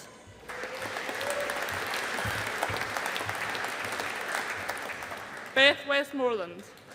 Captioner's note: audience applauding